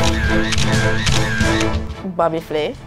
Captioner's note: dramatic music; camera snapping